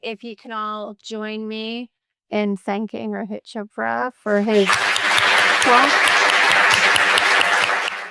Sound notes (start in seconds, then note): 6.3 applause